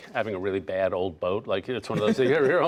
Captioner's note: laughter